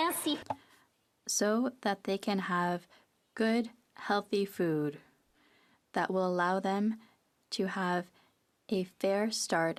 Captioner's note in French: applaudissements